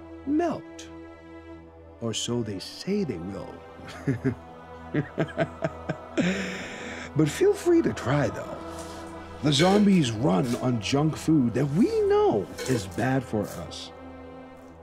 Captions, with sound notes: melt. Or so they say they will. [laughs] But feel free to try though. The zombies run on junk foods that we know is bad for us.